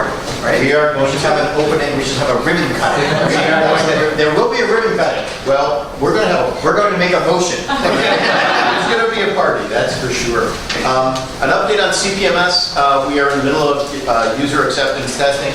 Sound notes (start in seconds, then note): 7.6 laughter